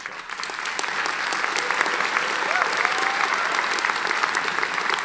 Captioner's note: audience applauding